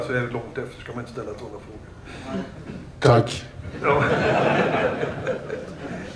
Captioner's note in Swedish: Skratt